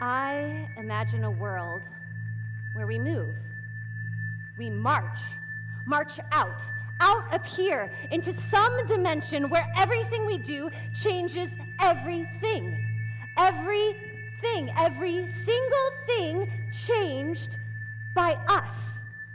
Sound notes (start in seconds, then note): none